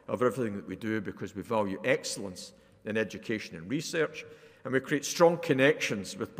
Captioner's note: none